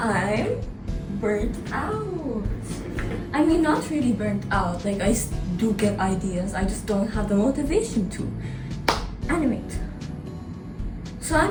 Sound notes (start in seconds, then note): 2.5 drum roll pleaseeee; 8.8 claps